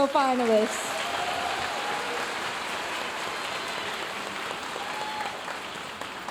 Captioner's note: audience cheering and applauding